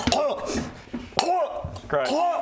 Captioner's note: chokes